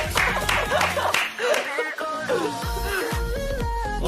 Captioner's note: tepuk